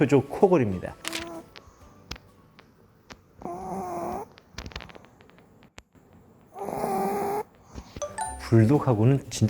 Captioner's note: snore ASMR